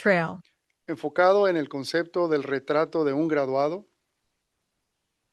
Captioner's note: non-english speech